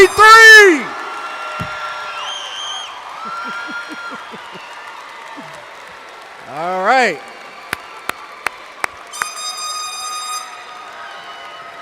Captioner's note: cheers, applause, air horns, whistles